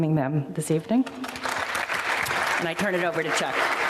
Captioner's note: audience applauding